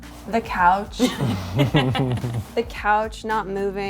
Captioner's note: laughing